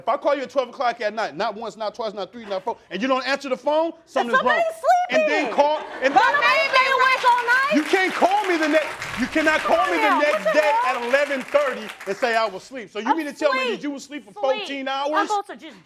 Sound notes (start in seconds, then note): 5.2 crowd laughing